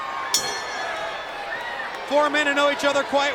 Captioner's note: bell rings